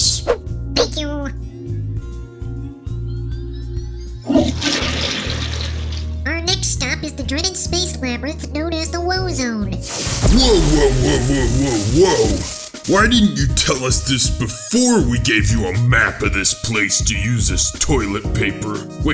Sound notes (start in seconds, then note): 4.3 toilet flushes